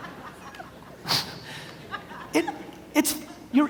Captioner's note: audience laughs; snickers